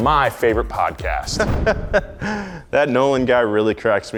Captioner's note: chuckling